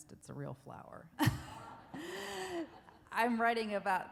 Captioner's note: laughs